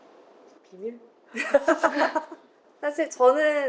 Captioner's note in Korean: 웃음